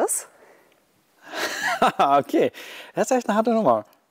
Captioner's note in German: lacht